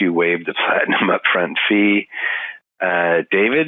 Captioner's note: laughing